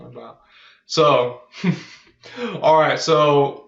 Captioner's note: chuckles